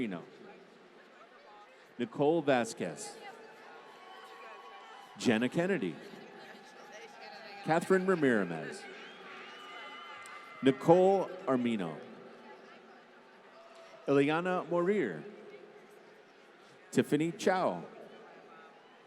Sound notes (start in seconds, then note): 3.7 applause